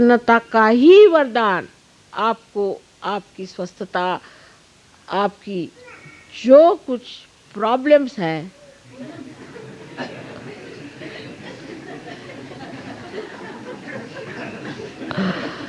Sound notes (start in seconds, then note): 7.6 laughter